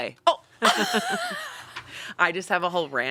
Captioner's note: laughing